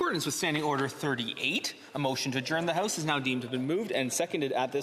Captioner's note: speaking French